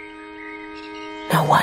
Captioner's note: birds chirping